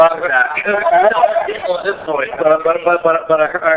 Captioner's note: laughing